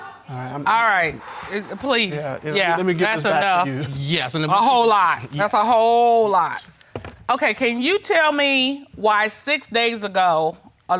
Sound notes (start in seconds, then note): 1.2 sighs